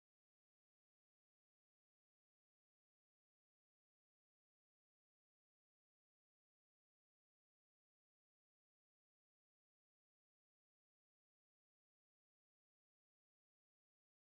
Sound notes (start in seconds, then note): none